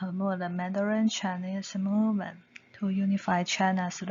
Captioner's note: 普通話